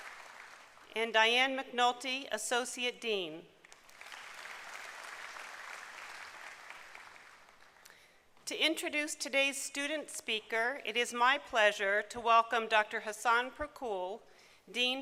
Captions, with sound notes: And Diane McNulty, Associate Dean. [applause] To introduce today's student speaker it is my pleasure to welcome Dr. Hasan Pirkul,